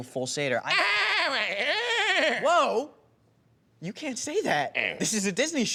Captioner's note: bleating